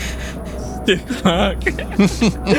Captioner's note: laughing; laughs